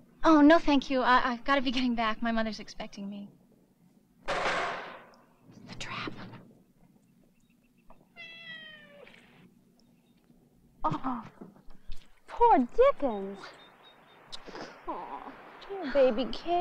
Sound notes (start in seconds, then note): 4.2 loudly clangs; 8.1 softly meowing